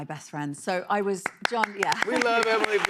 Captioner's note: applause